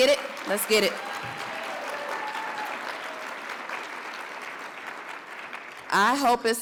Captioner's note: audience cheers and applauds